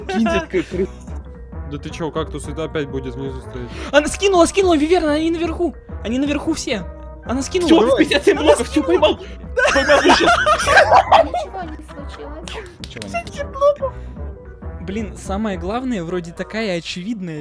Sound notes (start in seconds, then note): 9.7 laughing